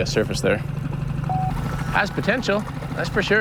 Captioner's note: magnetometer beeps